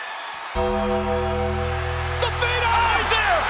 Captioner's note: bell tolls